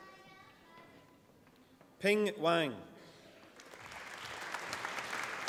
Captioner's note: applause